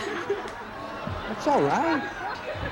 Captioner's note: audience laughing